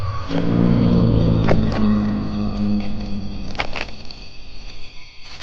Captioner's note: dinosaur growling continues